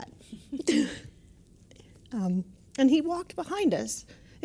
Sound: laugh

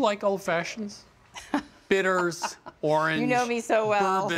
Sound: laughs

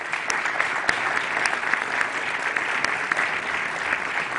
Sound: applause

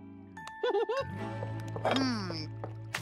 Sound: giggles

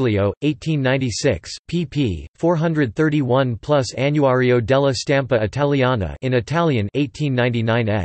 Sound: in Italian; in Italian

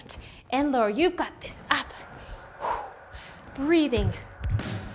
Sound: huffs

